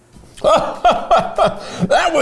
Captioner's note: chuckling richly